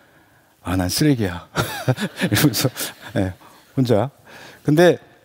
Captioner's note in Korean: 웃음